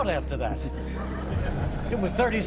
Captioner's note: laughter